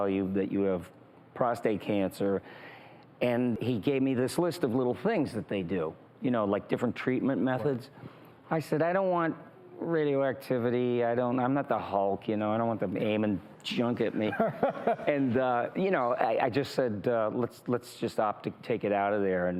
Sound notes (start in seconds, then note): 14.2 laughs